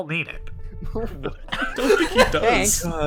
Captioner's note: laughs